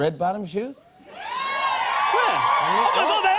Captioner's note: cheers and applause